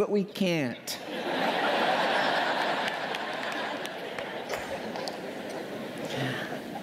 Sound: laughter

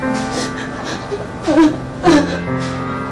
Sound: crying

